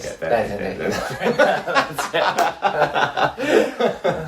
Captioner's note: laughs